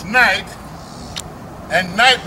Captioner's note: imperial smack